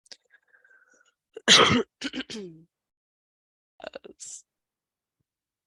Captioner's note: clears throat